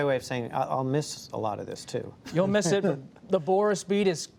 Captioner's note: laughter